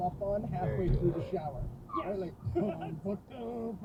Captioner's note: tire screech behind me